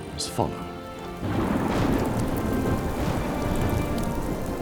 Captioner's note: thunder rumbles